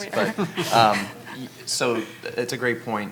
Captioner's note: laughing